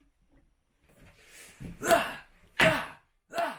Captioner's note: beating laptop